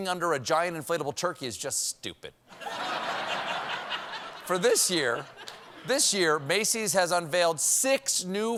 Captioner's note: laughter